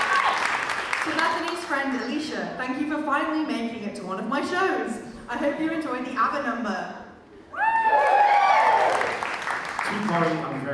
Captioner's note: audience cheers